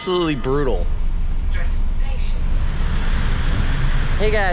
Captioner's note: bus announcement "Streatham Station"